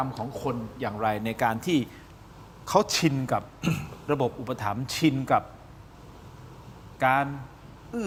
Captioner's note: clears throat